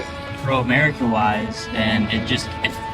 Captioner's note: audio muffling